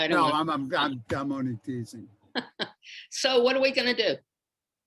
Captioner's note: laughs